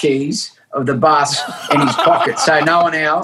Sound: people laughing

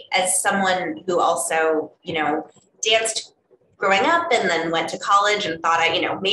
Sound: none

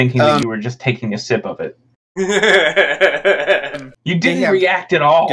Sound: laughs, alcoholically

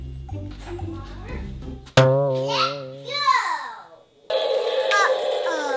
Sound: surprised boing sound effect

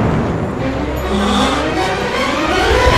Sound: gasp of awe

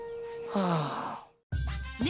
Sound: sighing

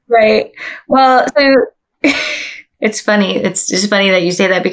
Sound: laughs

